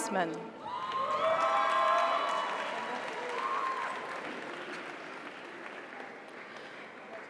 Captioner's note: audience cheers; audience applauds